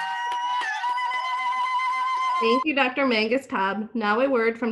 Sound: cheers

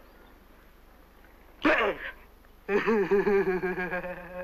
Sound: giggles

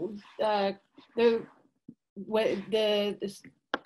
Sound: murmurs

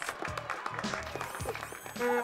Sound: cheering and applaeus

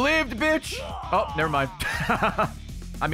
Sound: laughs

